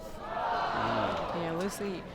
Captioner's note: crowd groans